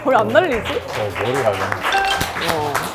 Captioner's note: blowing